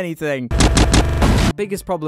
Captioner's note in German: Boom